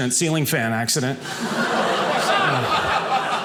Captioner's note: audience laughing